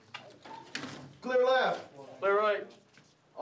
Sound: voiceover

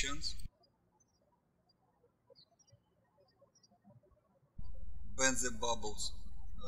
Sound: birds chirping

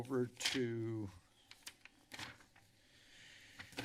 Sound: papers flipping

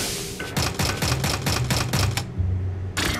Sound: door unlocking sound

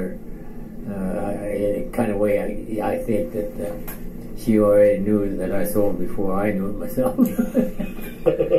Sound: chuckles

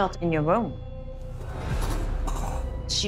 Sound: coughing

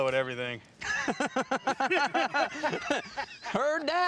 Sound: laughter

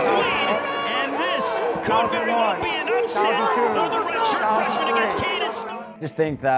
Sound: crowd cheering

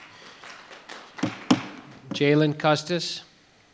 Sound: audience applauding

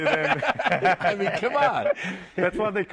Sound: laughter

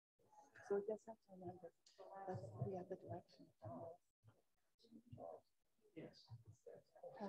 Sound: indistinct off-mic background conversation

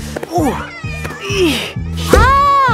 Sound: grunting

